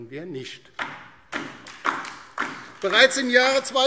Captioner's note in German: Beifall DIE LINKE